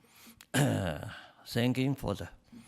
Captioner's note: clears throat